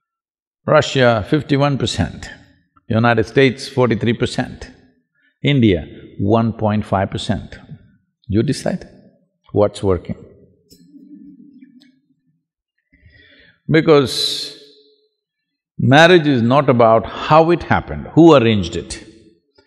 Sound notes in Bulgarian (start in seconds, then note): 12.0 Смях